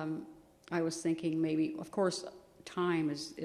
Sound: none

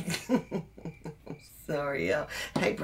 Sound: laughs

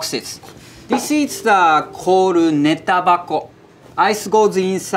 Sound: text chiming

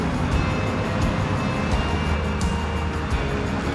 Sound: cars driving

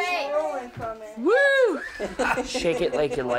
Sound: partygoers mumbling; hooting

